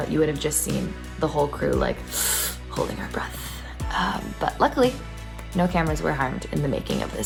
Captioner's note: sharp breath in